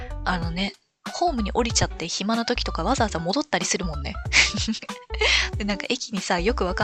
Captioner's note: laughs